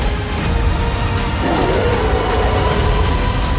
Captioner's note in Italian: ruggito